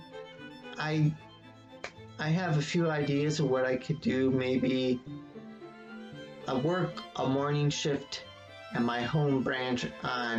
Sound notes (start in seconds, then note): 1.8 claps hands once